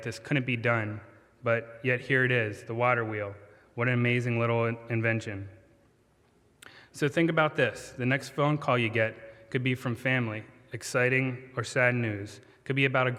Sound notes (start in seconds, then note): none